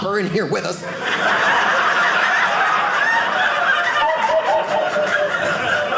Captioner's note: audience laughing